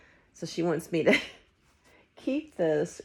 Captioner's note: laughing